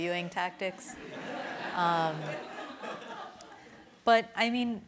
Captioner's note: laughter